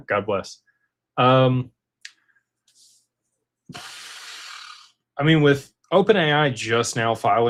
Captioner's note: snorts